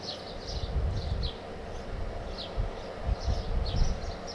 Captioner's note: birds chirping